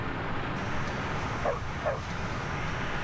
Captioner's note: dog barking